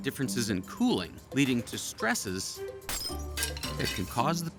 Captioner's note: glass breaking